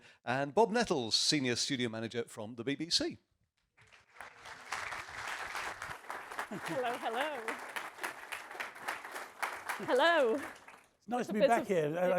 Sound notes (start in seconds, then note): 3.8 audience applauding; 6.5 chuckling